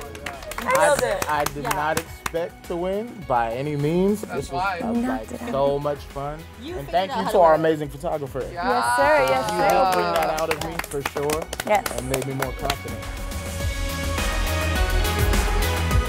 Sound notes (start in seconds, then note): 9.1 claps; 13.4 upbeat music